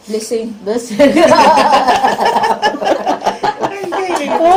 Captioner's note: laughs